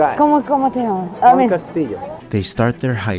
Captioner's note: Spanish